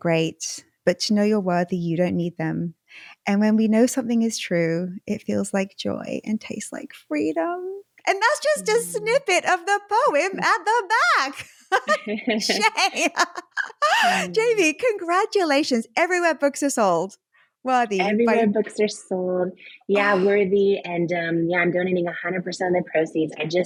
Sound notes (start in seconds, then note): 11.3 laughing